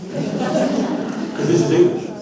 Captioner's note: audience laughs